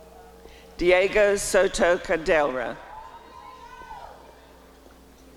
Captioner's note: applause and cheering